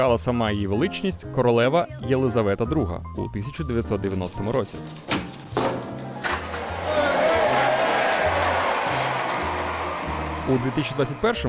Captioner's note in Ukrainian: оплески